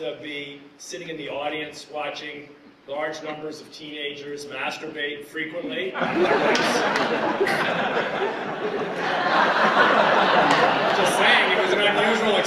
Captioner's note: laughter